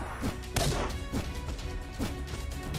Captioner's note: none